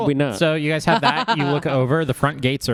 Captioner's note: laughs